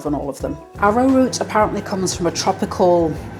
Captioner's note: microwave whirring